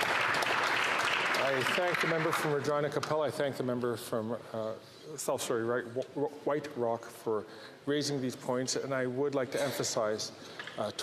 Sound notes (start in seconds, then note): 3.4 off mic